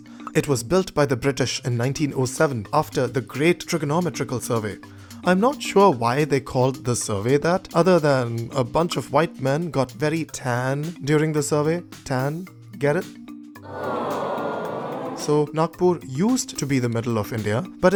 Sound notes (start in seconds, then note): 13.6 audience Groans